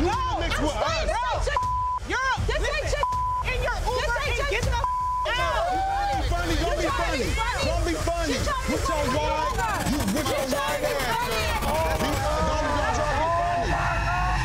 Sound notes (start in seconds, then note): 1.5 beep; 4.8 beep